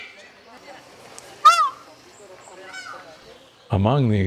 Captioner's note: bird call